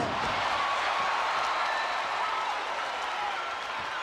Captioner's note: crowd cheering